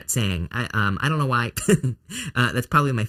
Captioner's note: chuckles